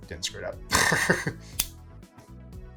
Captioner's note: laughing; lighter striking